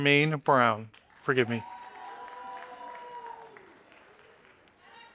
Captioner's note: audience applauding